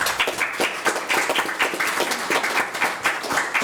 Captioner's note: applauding